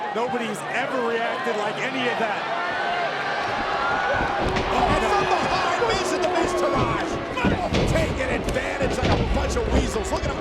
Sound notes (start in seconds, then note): 4.5 announcer speaking faintly off mic